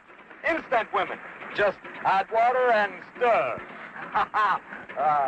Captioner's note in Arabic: يضحك